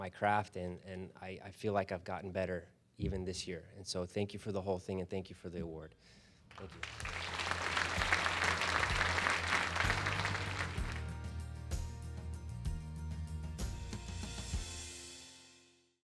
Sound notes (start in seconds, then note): 6.4 applause